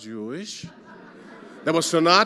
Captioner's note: audience laughing